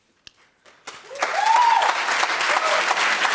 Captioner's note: audience applauds